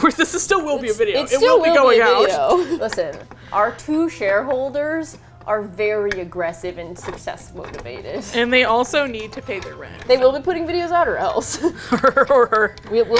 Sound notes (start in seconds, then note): 1.3 laughs; 7.2 laughs; 11.2 laughs